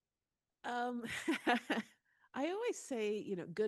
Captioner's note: Ijeoma laughing